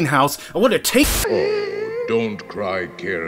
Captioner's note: static